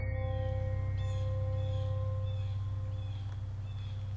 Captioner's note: music fades; birds chirping